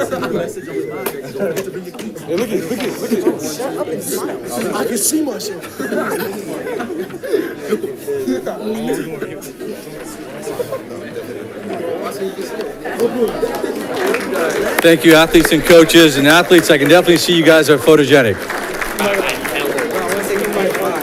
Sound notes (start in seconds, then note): 5.9 group laughing; 8.2 crowd chatting; 14.0 audience clapping; 18.6 audience clapping